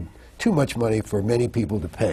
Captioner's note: none